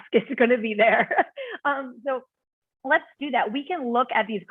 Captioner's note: laughter